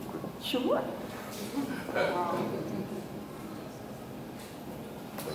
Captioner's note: audience chuckles